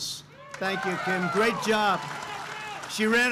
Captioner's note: applause